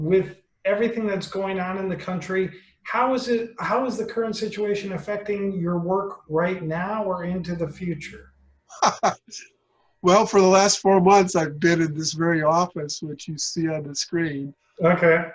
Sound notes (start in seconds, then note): 8.8 laughter